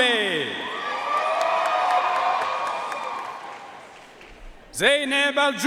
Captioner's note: audience cheering and applauding